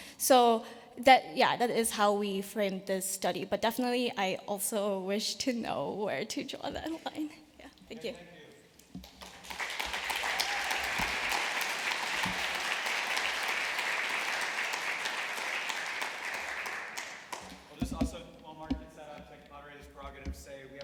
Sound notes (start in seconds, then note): 9.0 applause